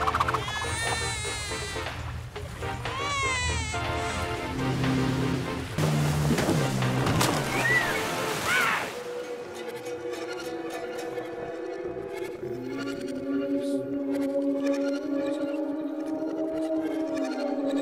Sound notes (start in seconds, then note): 4.2 boat engine revving; 4.2 loud yell